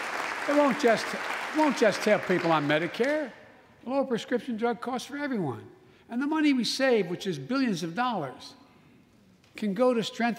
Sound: applause

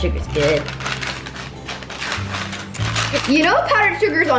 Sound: parchment paper crackling

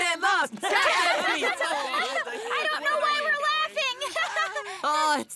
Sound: laughing

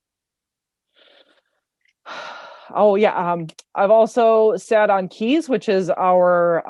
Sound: sighs

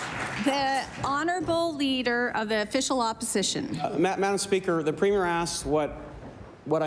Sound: applause

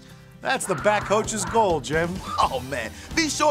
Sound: growling

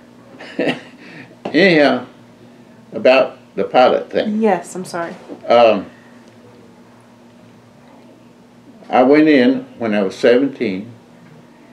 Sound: laughs

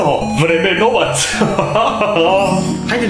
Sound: laughs

